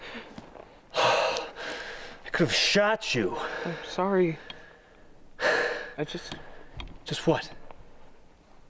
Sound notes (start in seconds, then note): 0.9 gasps